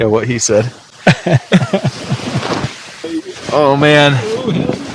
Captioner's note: laughs